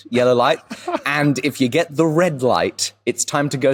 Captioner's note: laughs softly